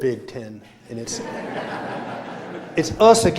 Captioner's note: laughter